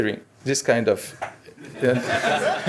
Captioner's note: clap; laughter